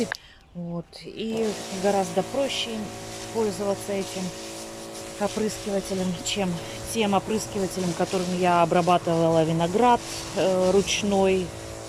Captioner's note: manual pump